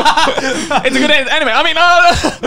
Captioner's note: both laugh